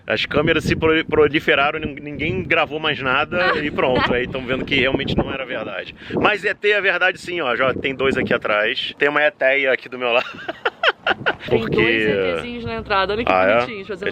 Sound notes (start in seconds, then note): 10.1 laughs